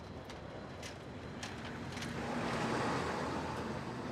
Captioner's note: Brooklyn street sounds